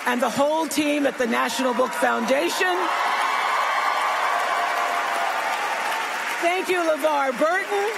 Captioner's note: applause